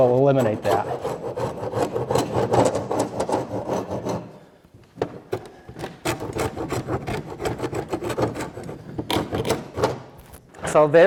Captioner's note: scraping noises